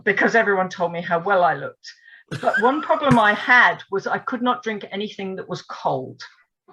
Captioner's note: laughs